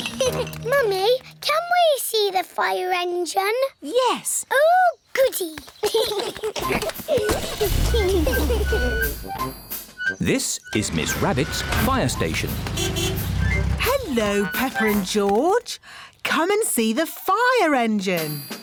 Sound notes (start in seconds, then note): 0.0 giggles; 5.8 both giggling; 12.6 horn honks